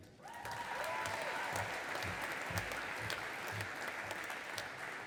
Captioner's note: audience applauding